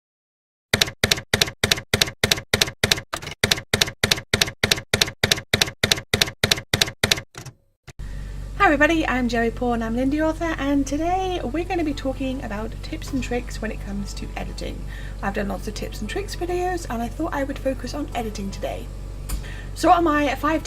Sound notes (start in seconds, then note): 0.7 typewriter keys clacking